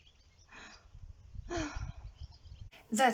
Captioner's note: sigh